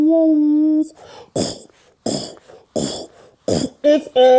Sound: beatboxes

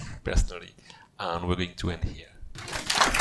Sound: applause

